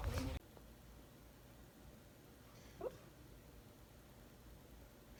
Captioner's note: Joplin makes small grunting noises